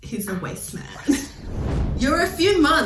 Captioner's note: whispers